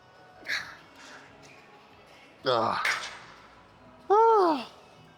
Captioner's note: soft music; grunting